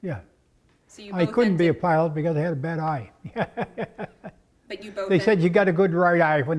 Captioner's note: laugh